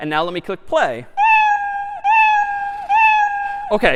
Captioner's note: میو زدن